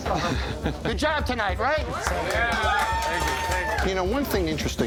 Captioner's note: customers clapping